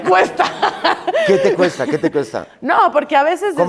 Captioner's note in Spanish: Risas